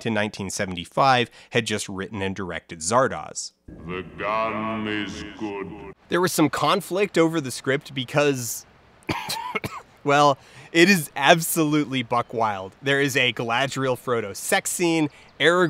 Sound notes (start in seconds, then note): 9.0 coughing